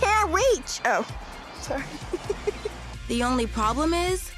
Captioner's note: giggling